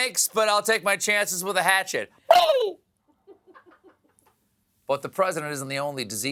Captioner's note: gobbles